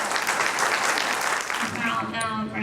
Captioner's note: applause drowns out speaker